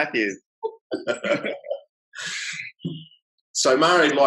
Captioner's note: laughs